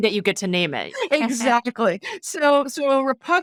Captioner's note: laughing